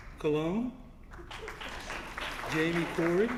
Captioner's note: applause